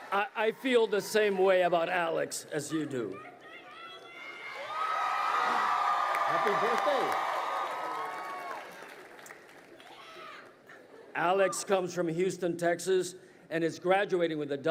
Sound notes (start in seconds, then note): 2.6 crowd cheering